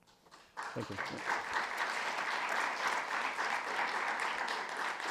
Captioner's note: audience applauding